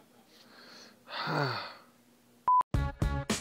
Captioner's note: sighs